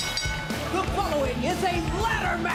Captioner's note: bell ringing